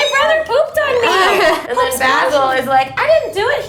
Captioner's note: laughing